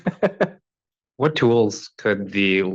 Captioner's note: professor laughs